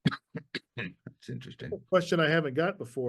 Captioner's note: coughs